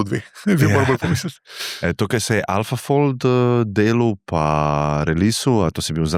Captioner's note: laughs